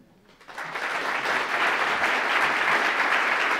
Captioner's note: applause